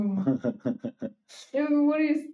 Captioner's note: laughing